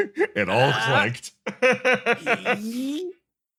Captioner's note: laughs; laugh